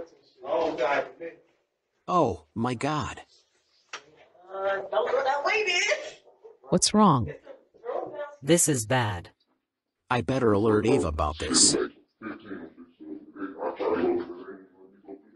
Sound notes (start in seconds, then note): 7.5 indistinct chatter with panic and fear